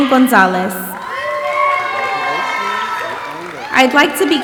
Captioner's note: audience applauding and cheering